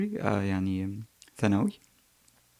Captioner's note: in Arabic